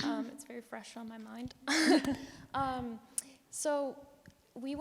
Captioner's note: chuckles